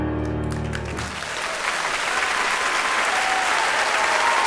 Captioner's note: applause